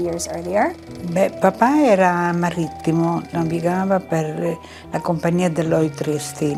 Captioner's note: speaking in foreign language